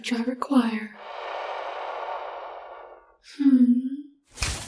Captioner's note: phantom scream